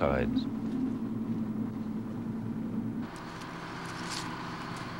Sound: device vibrating

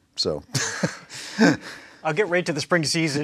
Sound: laughs

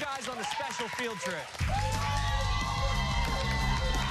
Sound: cheers and applause

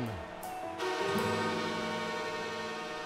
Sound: horn blaring

